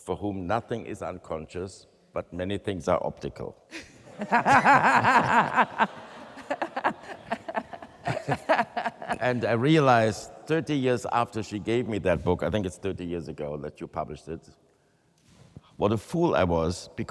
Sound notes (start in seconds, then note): 3.7 laughs; 4.0 audience laughs